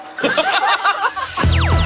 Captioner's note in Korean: 푸짐한 웃음